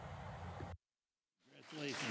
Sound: applause

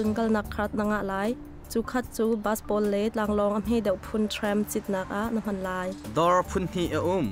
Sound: trams

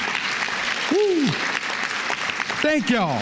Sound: applause

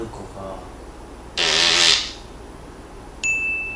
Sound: fart><

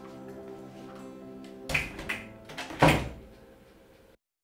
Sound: door closed

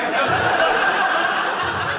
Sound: audience laughing

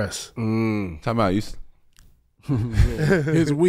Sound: laughs

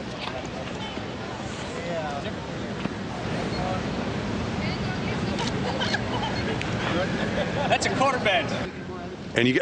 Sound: laughter

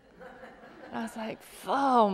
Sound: laughter

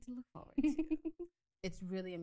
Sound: laughs

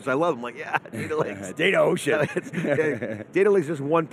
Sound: laughs

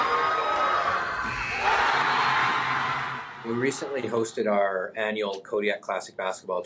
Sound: cheers and Applause

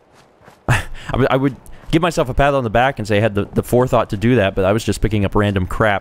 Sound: sigh

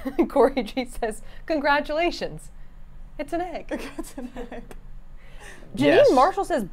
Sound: laughs

